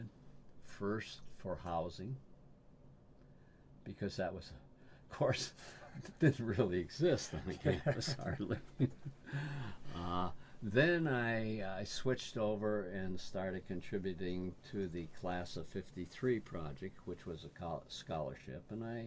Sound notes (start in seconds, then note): 7.2 laughs